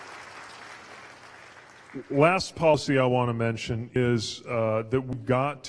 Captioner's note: applause